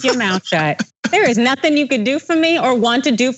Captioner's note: laugh